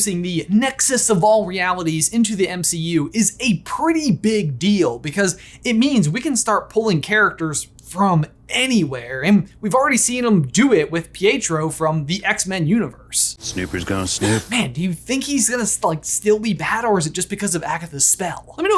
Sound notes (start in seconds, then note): 14.1 Monica gasping